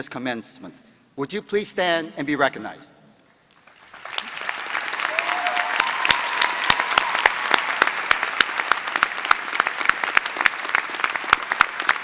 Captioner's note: applause